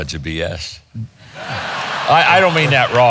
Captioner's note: audience laughing